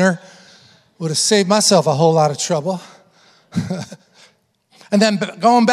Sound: chuckle

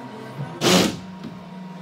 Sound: drill noise

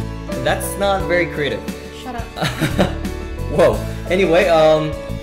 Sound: laugh

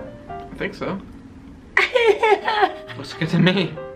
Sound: laughing

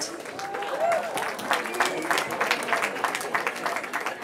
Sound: cheering

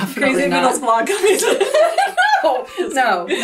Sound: laughs

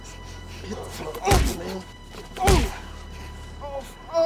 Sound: body thuds

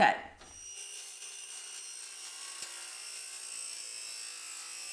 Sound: saw buzzing

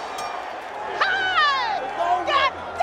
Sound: bell dings

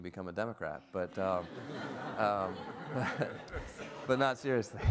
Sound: everyone laughs

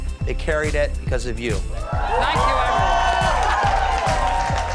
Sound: crowd cheering

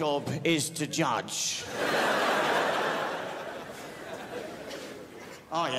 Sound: crowd laughs

